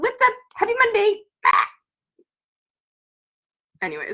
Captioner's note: squawks